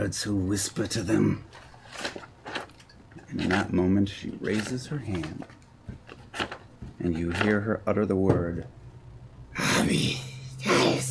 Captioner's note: arcane gibberish